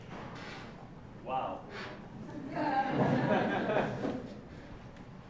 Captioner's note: laugh